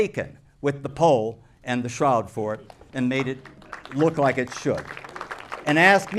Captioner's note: applause